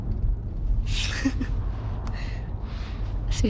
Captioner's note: chuckles